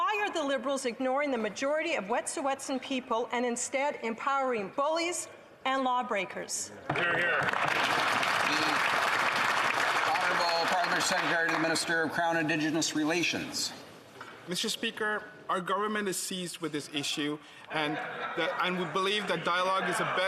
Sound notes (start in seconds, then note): 12.2 applause